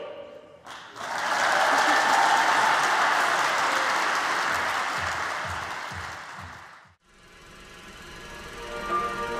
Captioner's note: ปรบมือ